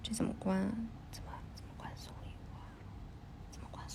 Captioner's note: whisper: How to turn off the minimized display?